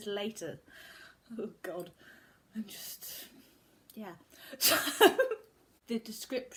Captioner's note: giggles